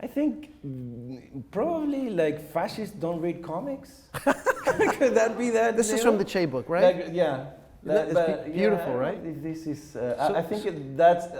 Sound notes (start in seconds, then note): 4.1 laughing